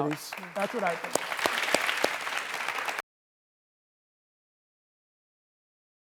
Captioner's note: audience applauds